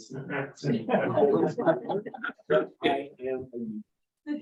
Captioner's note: members laugh